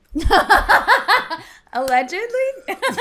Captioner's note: laughter